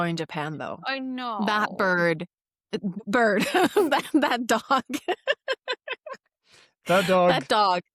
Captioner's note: laughs